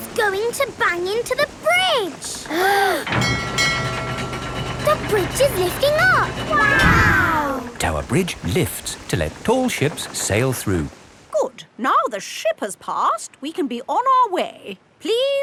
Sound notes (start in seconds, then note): 2.4 kids gasping; 3.0 bell dinging